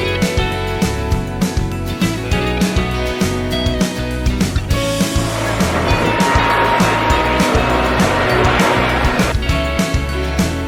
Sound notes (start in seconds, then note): 4.7 aeroplane engines roaring